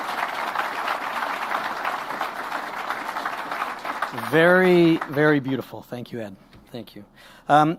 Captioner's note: applause